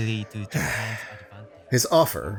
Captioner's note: sighs